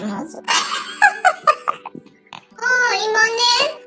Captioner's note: laughs